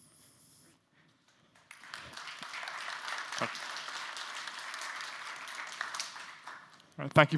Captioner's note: applause